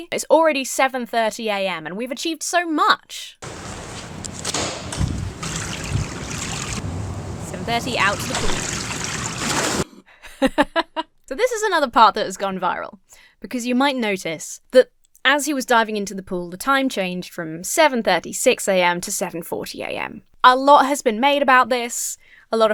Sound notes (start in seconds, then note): 3.4 door clicks; 5.4 water running; 8.7 water runs; 9.4 water splashes; 10.2 laughs